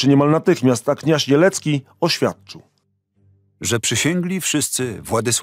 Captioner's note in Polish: Lektor